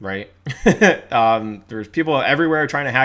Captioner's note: laughs